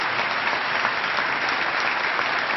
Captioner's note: applause